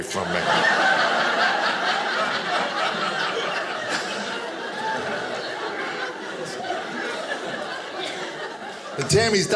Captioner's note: audience laughing